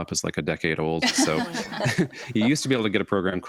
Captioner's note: and hosts laugh